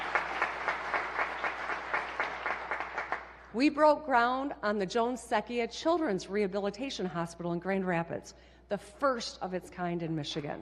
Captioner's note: applause